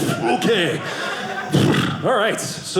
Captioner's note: audience laughing